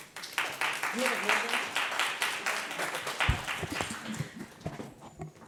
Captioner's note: audience applauds